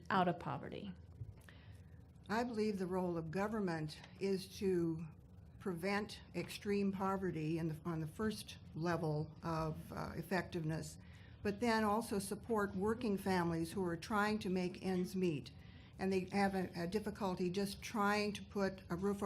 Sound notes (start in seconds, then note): none